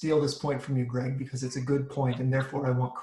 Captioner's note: laughing